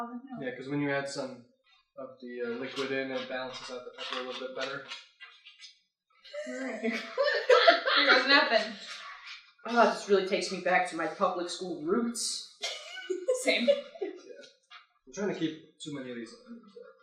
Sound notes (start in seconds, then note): 6.3 mixing and laughter; 12.6 laughter